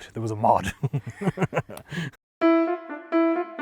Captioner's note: laughing